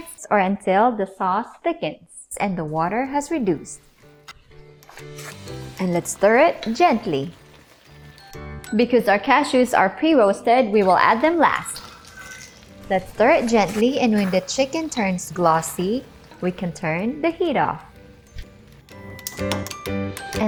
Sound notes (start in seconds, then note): 11.7 cashews clanking; 18.2 clicks stove